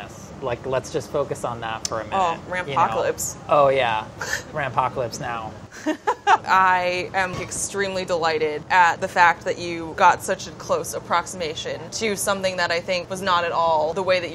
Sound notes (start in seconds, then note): 5.7 laughing